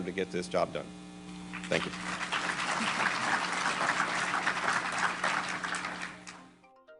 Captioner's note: applause